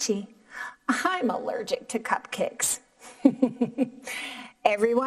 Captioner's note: laughing